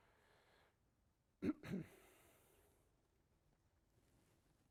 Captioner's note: coughing